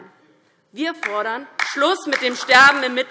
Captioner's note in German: Beifall DIE LINKE